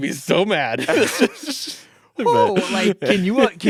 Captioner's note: all laughing